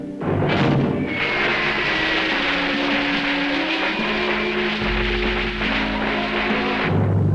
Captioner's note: reverent music; fireworks popping